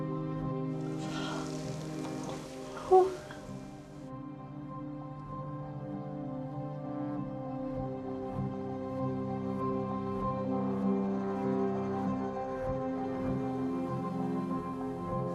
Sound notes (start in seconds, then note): 0.8 gasps